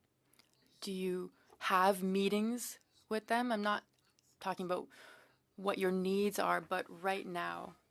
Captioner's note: speaking French